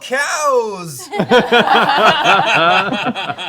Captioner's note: laughter